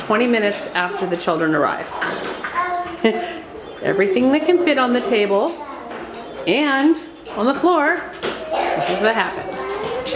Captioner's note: laughs